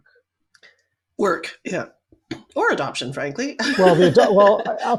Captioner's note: laughs